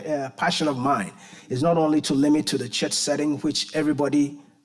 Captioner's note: none